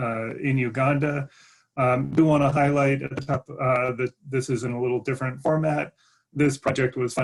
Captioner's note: glitch interferes with audio